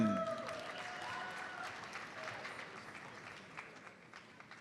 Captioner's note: audience applauds